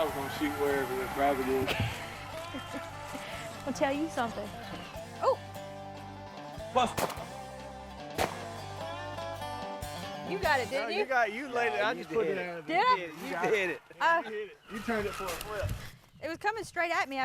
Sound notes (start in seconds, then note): 6.9 gun fires